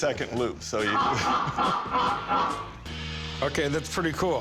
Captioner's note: Joker cackle